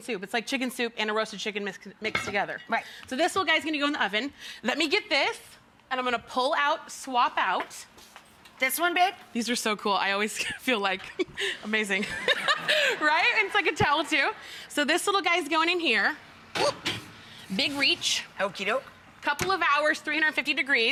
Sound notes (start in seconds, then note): 12.0 laughs; 12.0 audience laughs